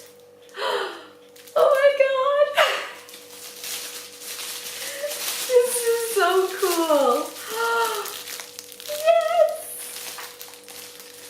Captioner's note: gasp; laughs